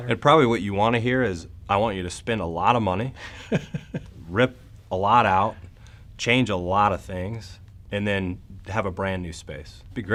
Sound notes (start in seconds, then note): 3.2 man laughs